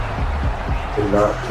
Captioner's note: crowd Noises